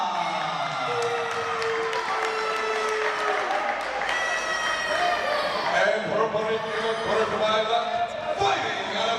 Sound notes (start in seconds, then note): 0.8 applause